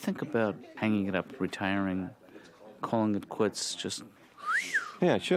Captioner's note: whistles